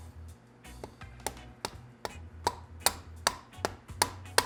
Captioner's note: thudding